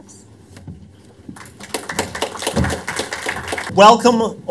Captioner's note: applause